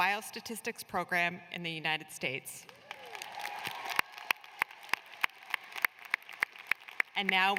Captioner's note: applause